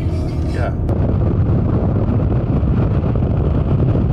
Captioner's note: wind blowing